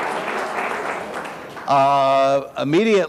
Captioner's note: audience applauds